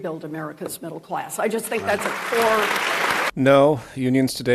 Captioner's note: applause